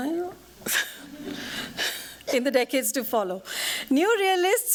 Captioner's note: laughs